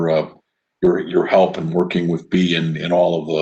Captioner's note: laughs